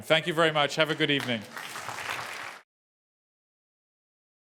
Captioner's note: applause